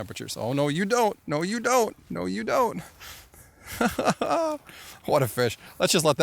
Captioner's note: laughs